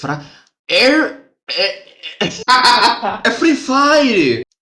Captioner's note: laughing